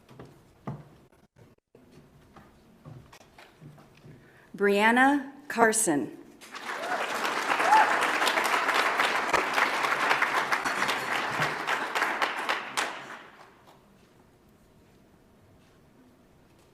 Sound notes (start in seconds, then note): 6.4 audience applauds